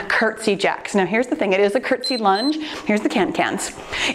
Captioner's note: timer beeps